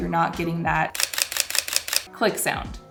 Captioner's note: camera clicking